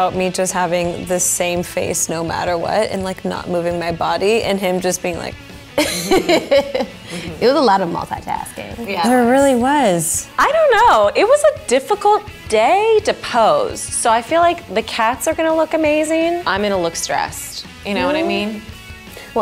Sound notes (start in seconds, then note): 5.8 laughing